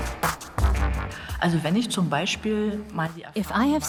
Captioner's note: speaks German